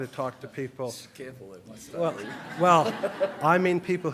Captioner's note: laughter